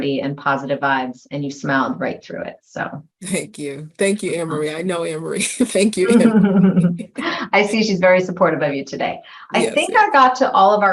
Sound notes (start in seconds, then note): 7.0 laughing